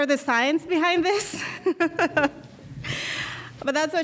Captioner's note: laughing